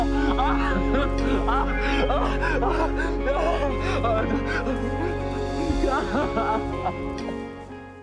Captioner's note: tae-sang sobs uncontrollably while embracing the late chae-ok